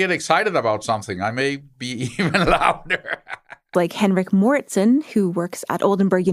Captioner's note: laughs